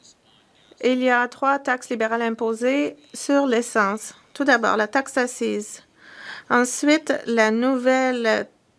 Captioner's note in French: voix de l'interprète